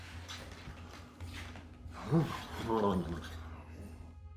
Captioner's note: blows